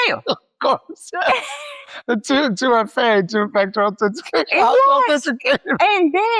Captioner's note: laughs